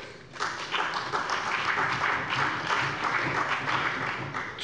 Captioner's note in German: Allgemeiner Beifall